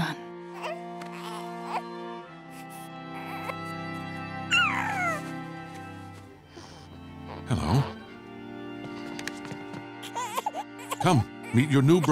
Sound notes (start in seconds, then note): 1.1 cooing; 4.1 yawns